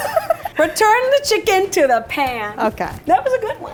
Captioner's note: laughing